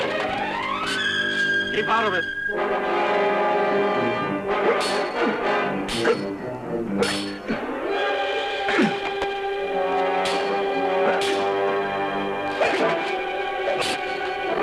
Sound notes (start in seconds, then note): 0.5 dramatic music; 4.6 steel clanging, grunting